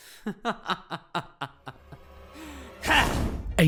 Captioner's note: Ainsley Laughs